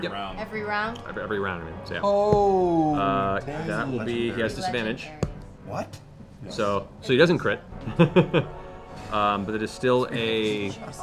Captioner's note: laughs